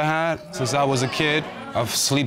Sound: audience exclaiming

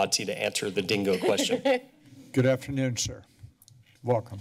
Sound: laughter

